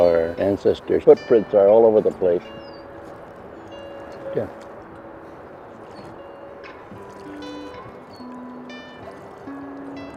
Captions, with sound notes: our ancestors' footprints are all over the place. (gentle guitar music) (paddle swishing water)